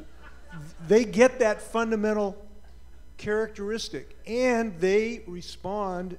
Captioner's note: laughter